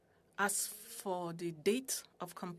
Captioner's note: speaking French